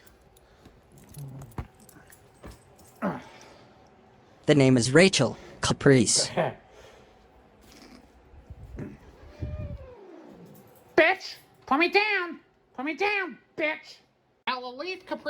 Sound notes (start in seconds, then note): 8.7 Caprice growls at Rachael and Ava